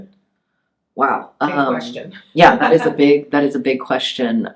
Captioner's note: laughs